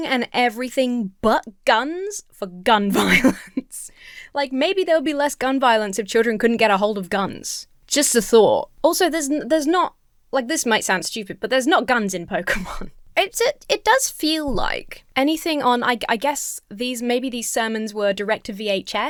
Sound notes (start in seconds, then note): 2.9 laughs